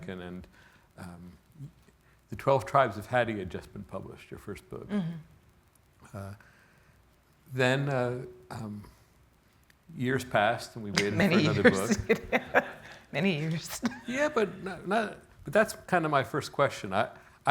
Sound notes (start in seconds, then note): 12.5 chuckling